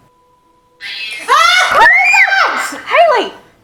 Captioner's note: screams